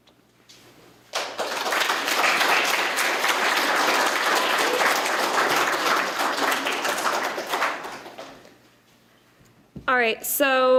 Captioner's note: applause